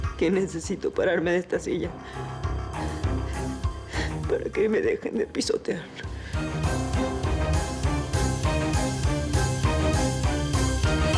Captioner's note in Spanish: solloza